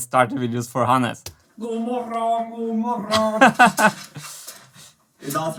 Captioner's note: Swedish; laughs